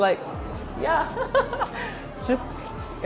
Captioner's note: laughs in Français